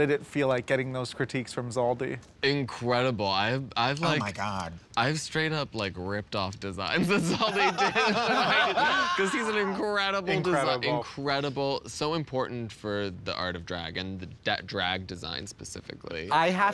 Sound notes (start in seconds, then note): 9.1 laughter